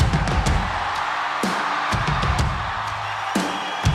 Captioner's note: alegria da multidão